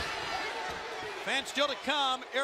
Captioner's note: crowd chatter